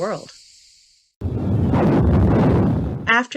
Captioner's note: explosive sounds